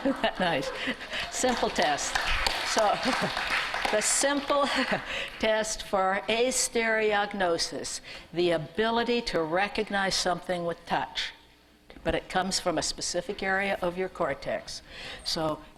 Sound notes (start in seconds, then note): 0.8 applause